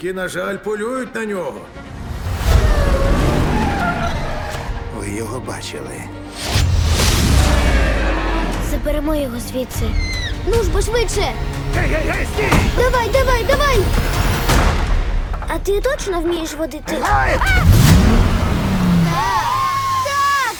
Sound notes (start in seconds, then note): 1.9 engine revs; 2.6 creature squeals; 6.4 suspenseful music playing; 7.4 creature roars; 10.0 whines; 15.1 car rattles; 16.9 all cheer; 17.0 engine revs; 17.1 girl screams